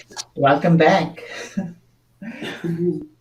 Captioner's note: chuckles